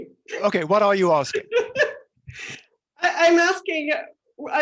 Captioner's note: laughs